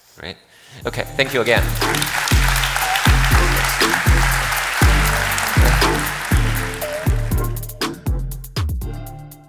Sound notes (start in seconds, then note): 0.8 upbeat music; 1.0 audience applauding